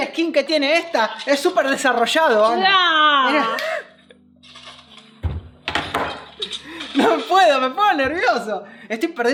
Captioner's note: laughs